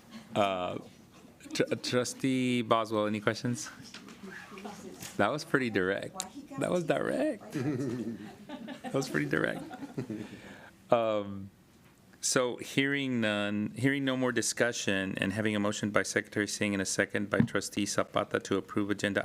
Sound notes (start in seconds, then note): 2.8 laughter